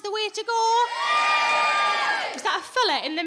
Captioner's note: audience cheering